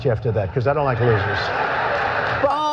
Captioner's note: laughter from audience